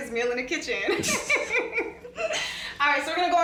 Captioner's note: laughing